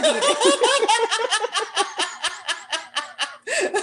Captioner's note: laughter